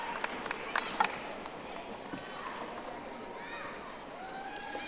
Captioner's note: audience applauding